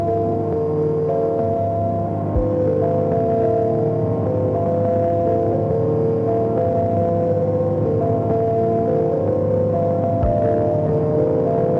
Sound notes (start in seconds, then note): none